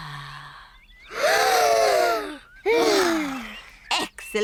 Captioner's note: breathes deeply; all breathe deeply